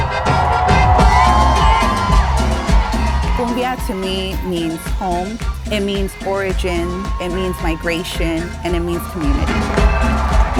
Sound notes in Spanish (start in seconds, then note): 3.5 en inglés